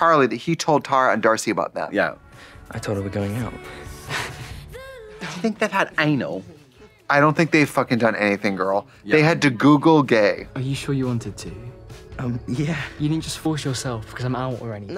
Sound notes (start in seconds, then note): 5.4 British accent